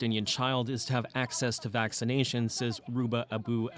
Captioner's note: speaking alternate language